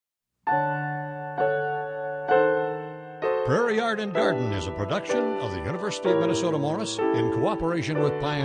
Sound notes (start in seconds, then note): 0.4 soft piano music; 3.6 voiceover